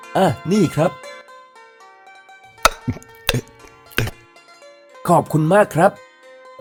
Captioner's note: drinking sound